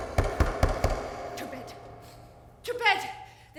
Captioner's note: loud knocking on door